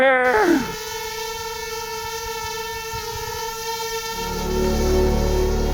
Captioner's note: drone buzzing